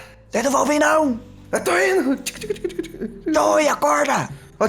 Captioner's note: tic tic tic